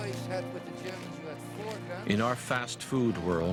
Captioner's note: voiceover